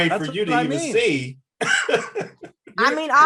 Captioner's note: Eric laughs